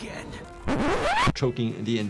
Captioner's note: tape rewinds